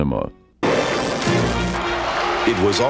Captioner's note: electric crackling